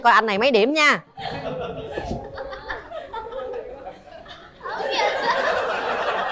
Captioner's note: laughter